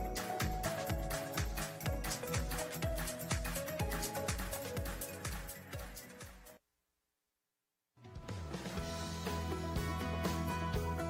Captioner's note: applause